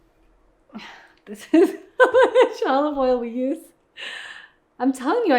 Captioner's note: laughs